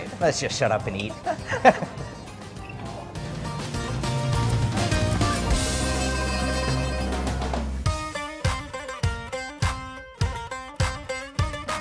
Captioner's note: laughing